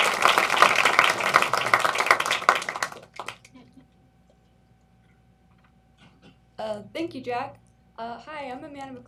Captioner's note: applause